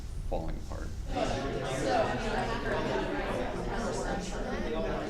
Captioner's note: chattering